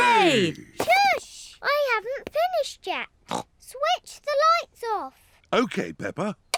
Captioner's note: snorts